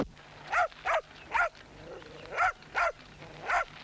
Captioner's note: dog barking